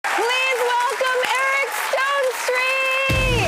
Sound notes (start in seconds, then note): 0.0 audience applauding; 2.5 upbeat music; 3.2 audience applauding